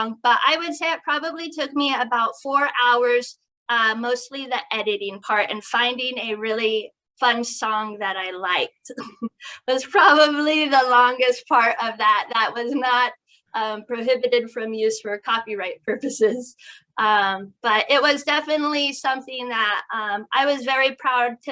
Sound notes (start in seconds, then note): 9.0 chuckles